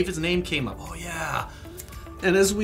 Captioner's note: snaps fingers